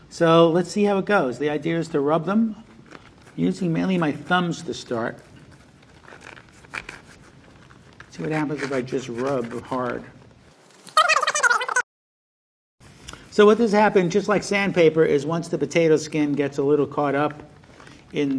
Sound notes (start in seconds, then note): 5.8 potato scraping; 10.9 fast-forward squeaking